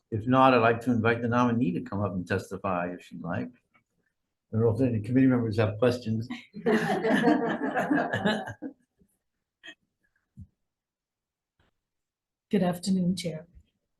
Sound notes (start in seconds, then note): 6.6 laughs